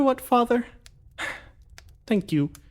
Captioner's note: sigh